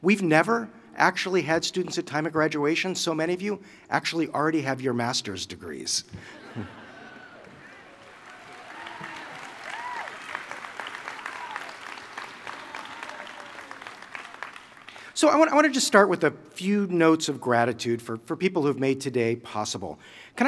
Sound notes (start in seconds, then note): 6.2 laughter and applause